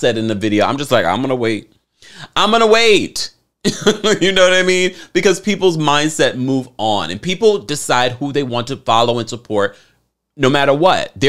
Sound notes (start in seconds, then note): 3.7 laughs